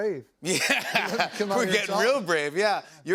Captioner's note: laughing